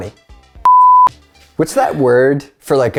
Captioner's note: off air signal